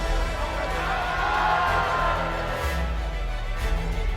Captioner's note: crowd cheering